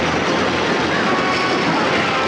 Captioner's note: fire crackling